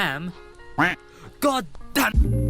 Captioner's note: quack